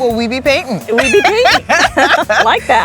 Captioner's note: laughing